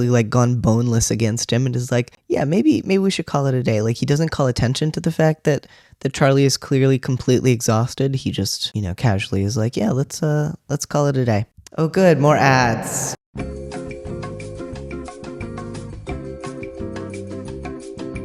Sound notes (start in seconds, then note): 11.7 echoing; 13.4 elevator music